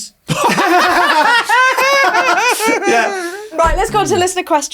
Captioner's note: everyone laughing